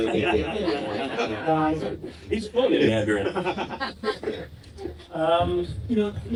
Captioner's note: laughing